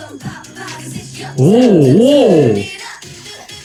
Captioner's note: exclaims